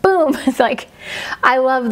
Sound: laughs

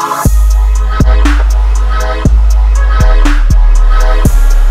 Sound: equipment whirring

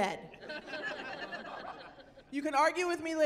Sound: laughing

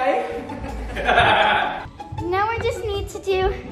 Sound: laughs

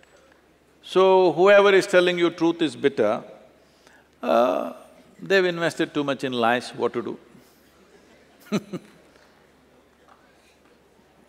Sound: laughs

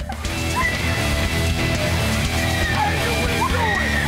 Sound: screaming

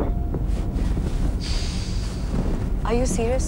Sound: deep breaths

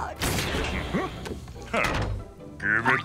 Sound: grunting

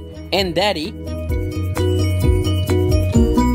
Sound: none

